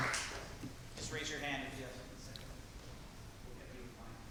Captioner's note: applause